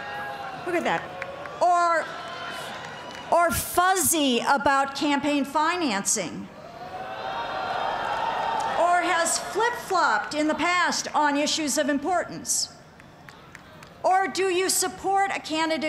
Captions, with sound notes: Who did that? Or... or fuzzy about campaigning financing? (crowd calling) Or has flip-flopped in the past on issues of importance? Or do you support a candidate